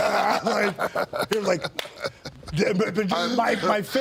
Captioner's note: DDP and Sean laugh